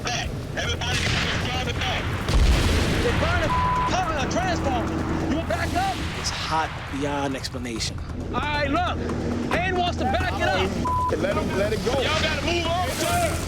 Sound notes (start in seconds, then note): 0.8 explosion